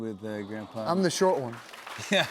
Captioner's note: crowd reacts; laughing